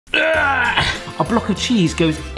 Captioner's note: groaning